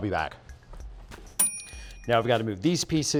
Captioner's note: ding SFX